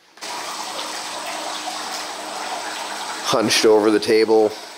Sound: water runs

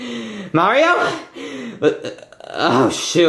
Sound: stammering

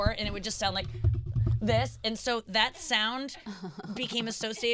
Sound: tapping on mics

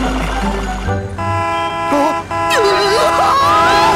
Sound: car honking; screams

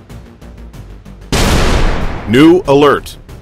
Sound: explosion

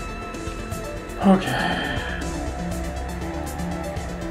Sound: sighing

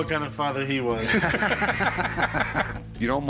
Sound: laughter

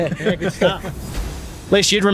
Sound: laughing

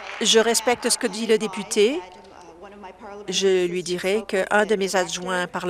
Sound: applause

